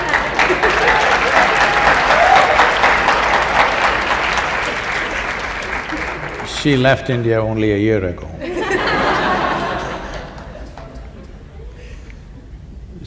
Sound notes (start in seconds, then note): 0.0 laughter & Applause; 8.3 laughter